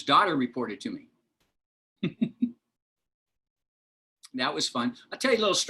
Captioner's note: laughter